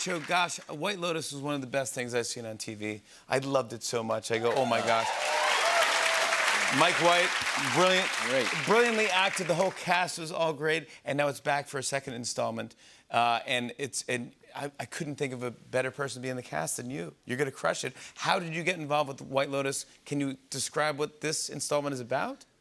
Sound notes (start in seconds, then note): 4.4 cheers and applause